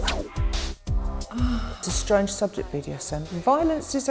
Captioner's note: moans